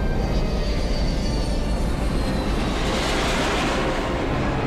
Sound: jet engines roaring

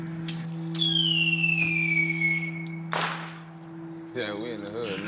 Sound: fireworks cracking

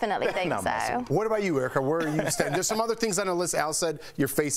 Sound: laughter

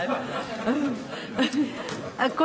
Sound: laughter

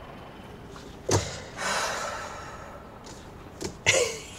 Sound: sighs heavily

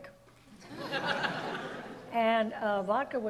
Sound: audience laughs

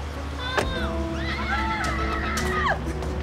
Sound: door closes; happy screaming

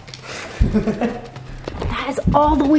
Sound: laughing

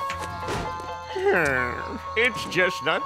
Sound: groaning

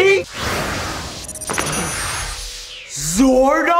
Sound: shwoop!

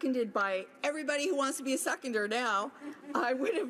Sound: listeners laugh

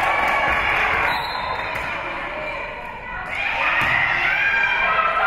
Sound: whistle being blown

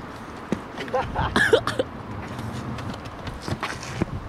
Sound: laughing

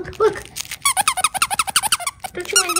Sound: rapid squeaking

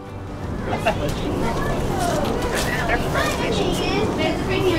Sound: people conversing

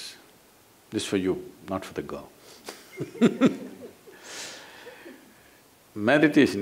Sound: laughter

